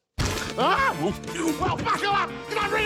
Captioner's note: grunts